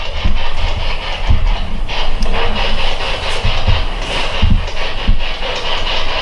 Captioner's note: clicking; static